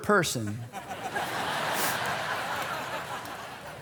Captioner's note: laughter